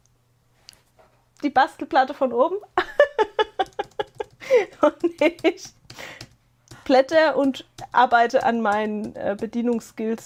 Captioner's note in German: gelächter